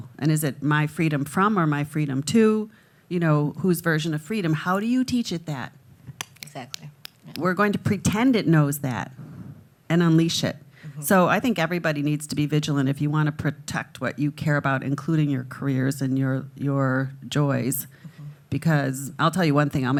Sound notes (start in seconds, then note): 7.0 snapping